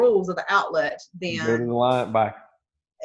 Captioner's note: murmurs